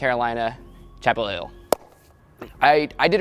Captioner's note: claps hands